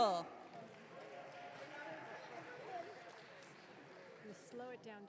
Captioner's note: audience cheering